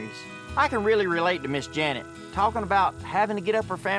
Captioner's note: none